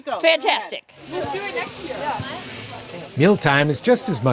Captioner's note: meat sizzling